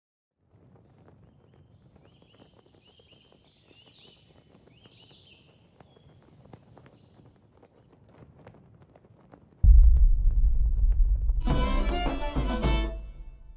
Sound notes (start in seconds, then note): 1.2 flag rustling and birdsong; 11.4 medieval music